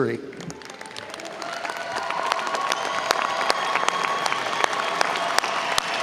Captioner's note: audience cheers and applauds